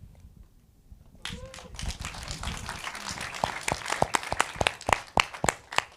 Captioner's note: audience applauding